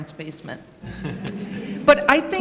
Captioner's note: laughter